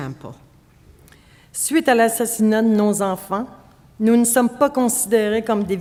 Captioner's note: speaking French